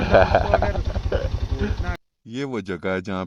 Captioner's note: chuckles